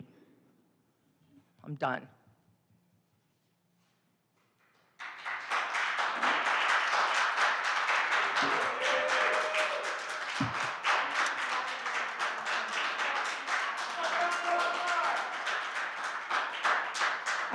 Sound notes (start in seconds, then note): 6.3 applause